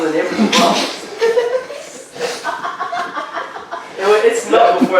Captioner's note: everybody laughing